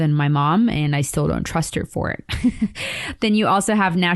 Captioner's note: chuckles